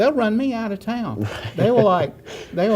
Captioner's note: laughter